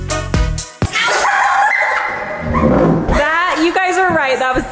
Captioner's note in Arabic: يضحك